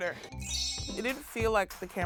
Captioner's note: chimes